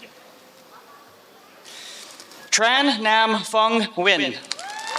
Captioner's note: applause